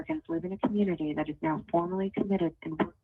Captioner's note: ~interference~